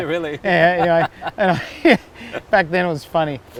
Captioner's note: laughs